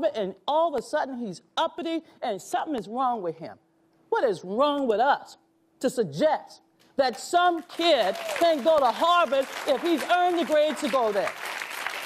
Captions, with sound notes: and all of a sudden, he's uppity and something is wrong with him. What is wrong with us, to suggest that some kid [audience applauds] can go to Harvard if he's earned the grade to go there?